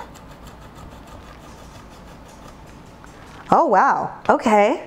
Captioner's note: cheese scraping